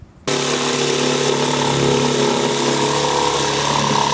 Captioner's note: jigsaw whirring